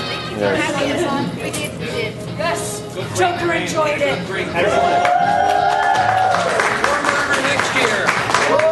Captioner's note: cheers